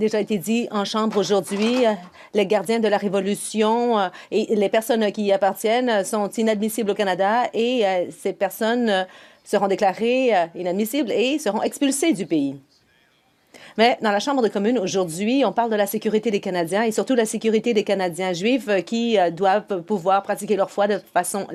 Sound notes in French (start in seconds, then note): 2.2 voix de l'interprète